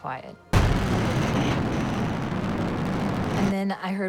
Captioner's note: whooshing